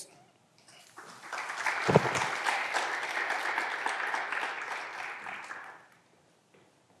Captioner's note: clapping continues; mic thuds